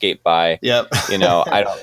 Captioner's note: laughing